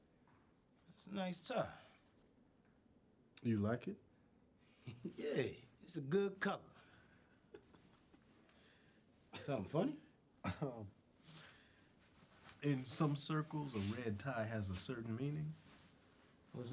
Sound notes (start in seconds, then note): 7.2 chuckles